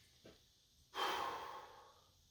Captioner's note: dissatisfied sigh